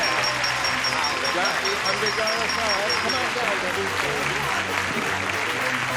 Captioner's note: dinging; chatter